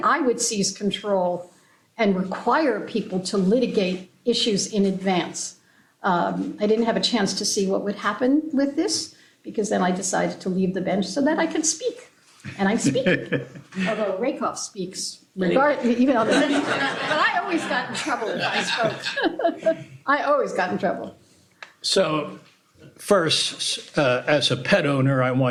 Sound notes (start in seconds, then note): 15.9 laughter